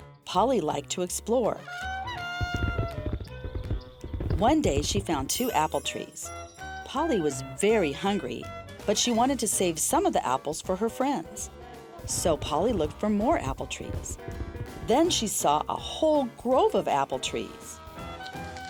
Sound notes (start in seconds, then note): 1.3 upbeat jazz music; 2.2 elephant galloping